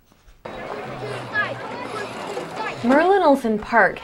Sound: child chanting

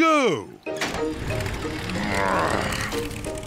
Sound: engine starts

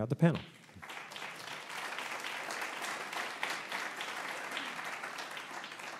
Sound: applause

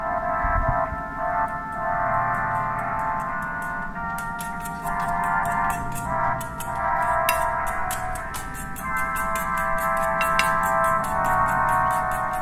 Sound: whisking noises in background

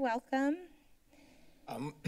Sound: silence; clears throat

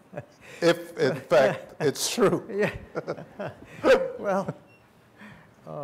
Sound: laughter

